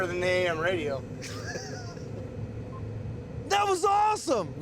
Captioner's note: laughing